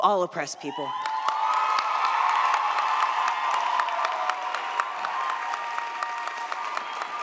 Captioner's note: audience cheers; audience applauds